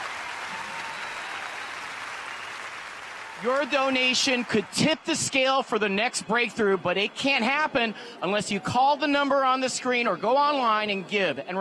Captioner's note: cheers and applause